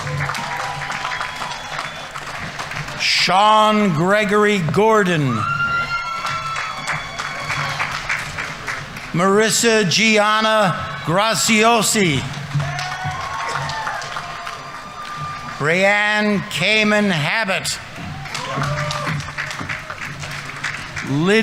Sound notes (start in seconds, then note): 0.3 audience applauding; 0.3 audience members cheering; 5.7 audience applauding; 5.7 audience members cheering; 12.5 audience applauding; 12.5 audience members cheering; 18.0 audience applauding; 18.0 audience members cheering